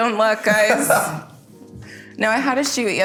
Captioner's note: laughs